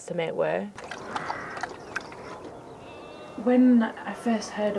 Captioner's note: water sloshing